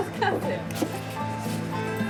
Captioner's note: laughs